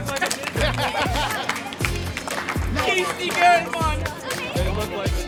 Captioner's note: group applauding